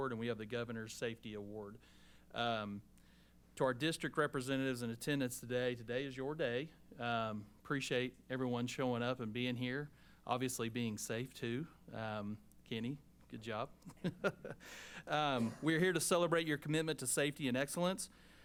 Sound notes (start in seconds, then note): 13.8 laughs